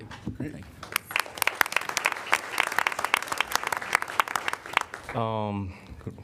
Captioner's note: applause